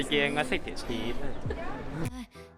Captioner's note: laughing